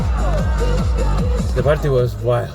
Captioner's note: upbeat music; cheering